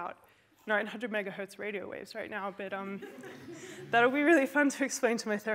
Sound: laughter

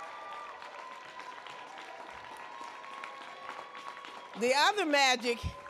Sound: audience cheering

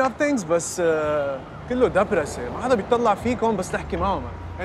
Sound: speaking in Arabic

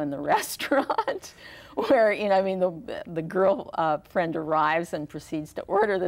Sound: laughs

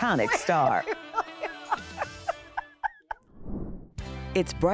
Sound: laughing

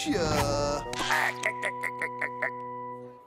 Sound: laughing

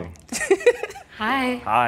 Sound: giggles

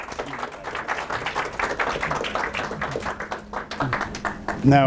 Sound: applause

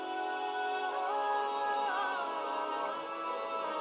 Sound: voices rise

